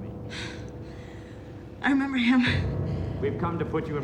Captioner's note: sighs